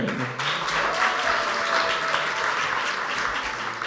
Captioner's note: audience applauds